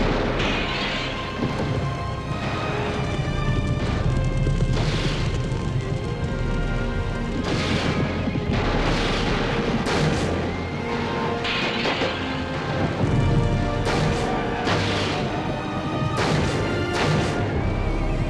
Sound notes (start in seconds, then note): 0.5 torch thuds; 0.5 window shatters; 3.6 fire crackling; 7.3 shots blasting; 7.8 hooves thundering; 11.8 window shatters; 13.1 fire roaring; 13.1 intense music swells